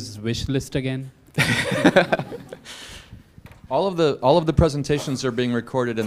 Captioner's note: laugh